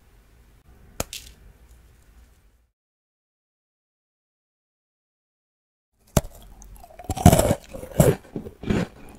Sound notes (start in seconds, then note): 6.1 eating sound